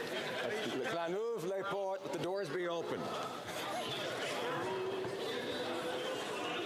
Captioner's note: some Laughter; speaking French